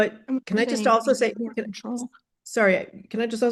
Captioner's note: speaks faintly